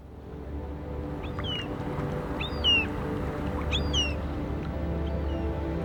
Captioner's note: bird Chirping